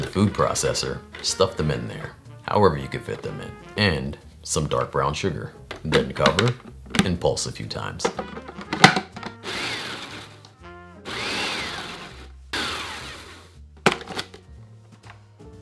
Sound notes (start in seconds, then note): 8.4 jazz music playing in background throughout video; 11.1 pulsing